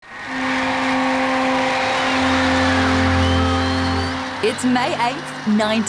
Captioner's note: crowds cheer